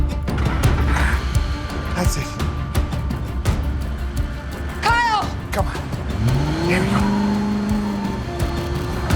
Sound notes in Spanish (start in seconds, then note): 6.4 Ruido del vehículo